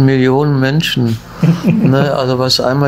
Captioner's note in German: lacht